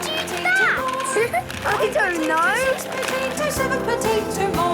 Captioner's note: laughing